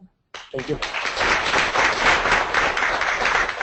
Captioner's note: audience applauds